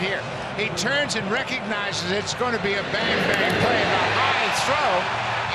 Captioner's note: cheering and Applause